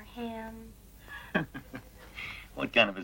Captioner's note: chuckles